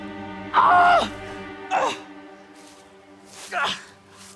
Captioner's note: Arawn screaming; Arawn groaning